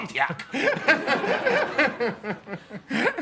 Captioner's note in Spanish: todos ríen